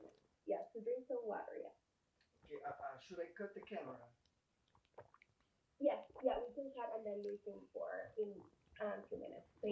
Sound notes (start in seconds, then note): 2.5 drinking